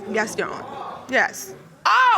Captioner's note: audience exclaiming